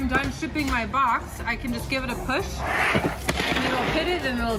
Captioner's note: box sliding across table